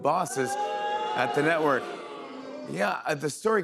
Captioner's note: crowd boos